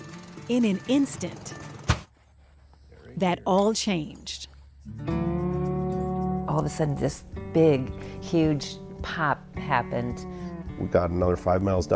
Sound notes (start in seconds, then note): 1.7 pop; 5.1 sad music